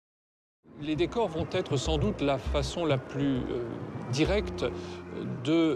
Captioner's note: speaking in a foreign language